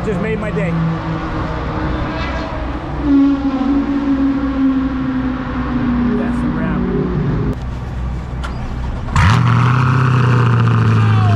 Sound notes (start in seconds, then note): 3.1 car sounds passing; 7.4 car engine starting